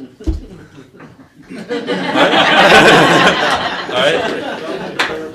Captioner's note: laughter